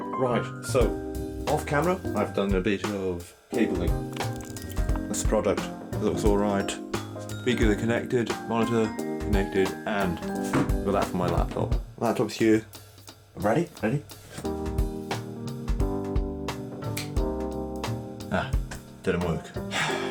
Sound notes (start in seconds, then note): 15.4 snaps Finger